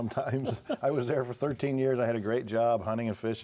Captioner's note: laughs